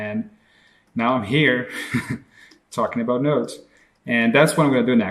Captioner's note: laughs